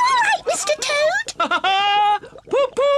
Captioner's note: laughs